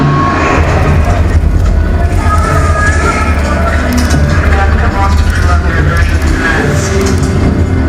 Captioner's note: ringing noises and clicking; clicking and muffled voices